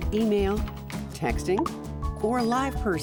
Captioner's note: cellphone chirps; cellphone rings